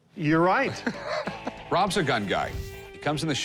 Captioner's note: laughs